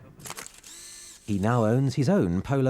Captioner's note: camera clicking